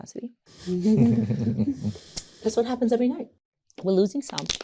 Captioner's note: laughter